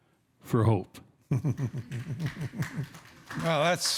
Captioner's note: chuckling; audience applauding